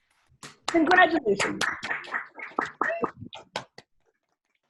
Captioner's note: attendees applauding